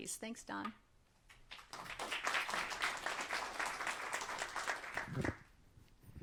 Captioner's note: applause